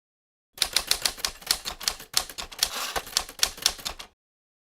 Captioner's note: typerwriter clicking